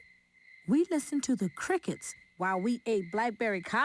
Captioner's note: crickets chirping